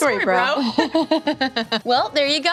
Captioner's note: laughing